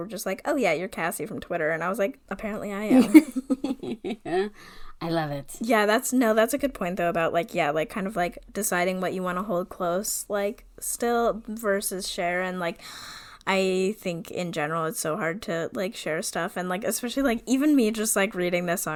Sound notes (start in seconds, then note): 2.9 laughs